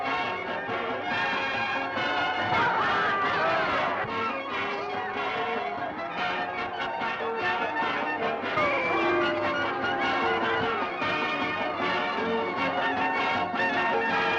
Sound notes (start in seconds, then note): 0.1 jeering; 8.8 booing; 10.9 upbeat music